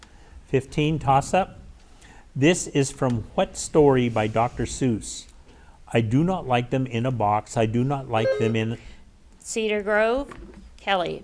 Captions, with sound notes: 15, toss-up. This is from what story by Dr. Seuss. I do not like them in a box. I do not like them in- (bell rings) - Cedar Grove, Kelly.